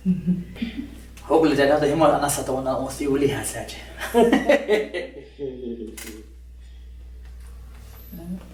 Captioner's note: laughter